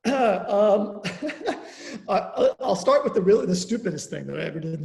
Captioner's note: chuckles